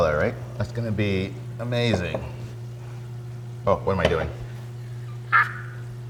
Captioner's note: laughs